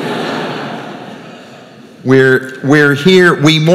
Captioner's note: crowd laughing